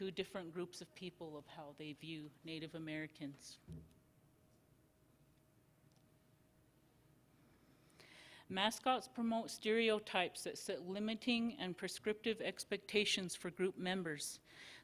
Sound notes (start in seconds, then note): 3.5 silence